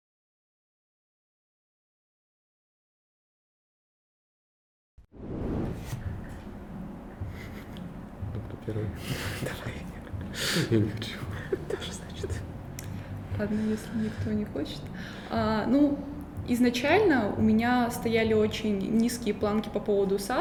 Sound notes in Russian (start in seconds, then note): 7.3 тихо смеётся; 7.4 тихим голосом; 9.1 шёпотом; 9.7 тихим голосом; 10.5 тихо смеётся; 11.1 шёпотом